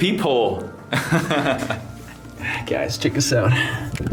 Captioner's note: laughs